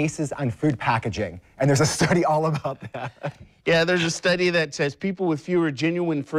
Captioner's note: laughs